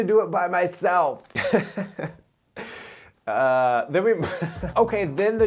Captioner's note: giggles